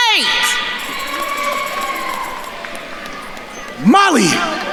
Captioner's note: attendees cheering